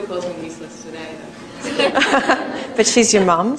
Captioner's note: laughter